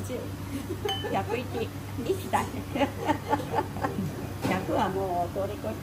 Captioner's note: laugh